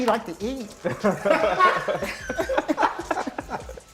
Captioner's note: laughter